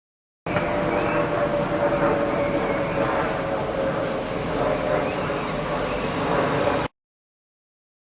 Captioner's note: street noise, birds